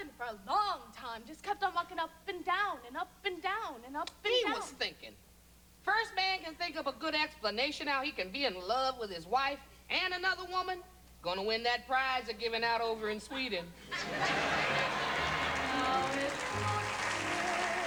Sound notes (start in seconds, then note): 13.8 laughter; 14.0 applause